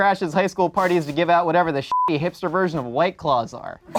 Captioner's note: beep